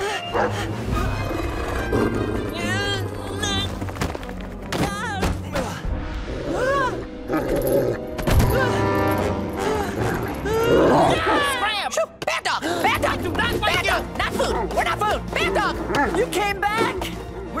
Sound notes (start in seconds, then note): 3.2 straining; 7.2 grunting; 7.3 dog growling; 9.2 whimpering